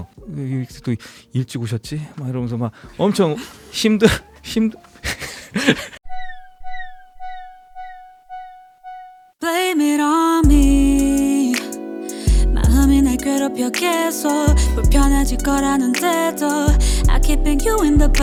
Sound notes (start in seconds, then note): 5.1 laughs